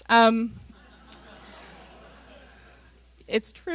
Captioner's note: laughter